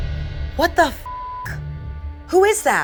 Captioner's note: beep